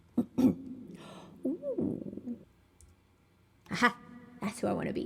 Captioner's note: gasp